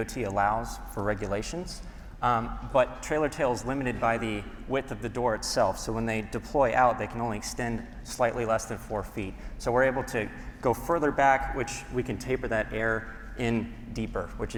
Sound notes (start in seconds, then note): none